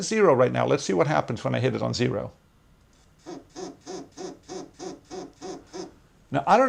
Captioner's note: pulsating vibration